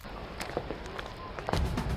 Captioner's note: footsteps